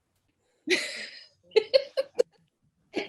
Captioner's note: laughter